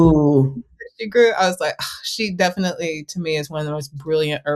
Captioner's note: sighs